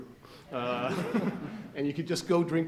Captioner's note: audience chuckles